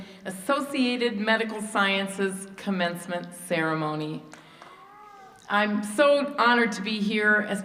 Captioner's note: applause